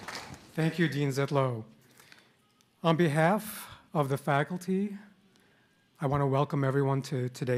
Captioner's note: applause